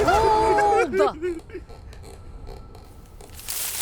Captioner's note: the trap creaks back and forth in the wind